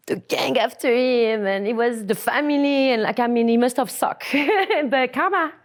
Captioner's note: laughs